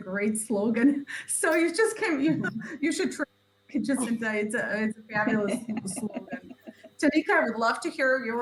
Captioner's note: laughs